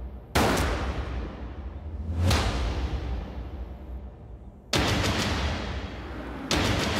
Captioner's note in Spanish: Disparos